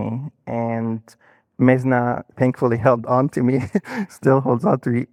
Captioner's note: laughing